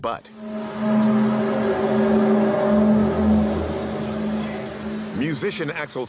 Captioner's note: groaning sound